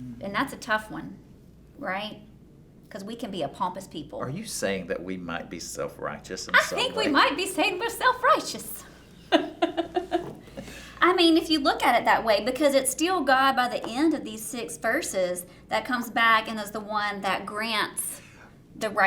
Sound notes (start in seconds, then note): 6.6 laughing; 7.0 fancy Accent